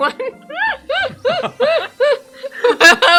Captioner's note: laugh; laughing